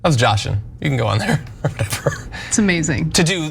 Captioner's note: laugh